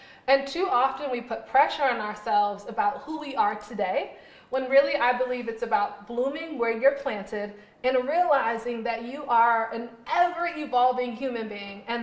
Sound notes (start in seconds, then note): none